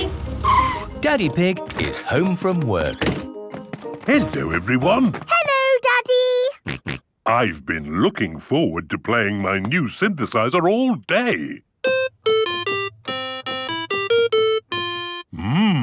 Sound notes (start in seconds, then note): 0.4 honking; 6.8 snorting; 11.8 playing theme song